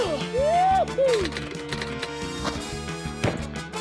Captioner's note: grunts; keys clack